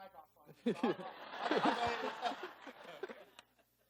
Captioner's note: laughing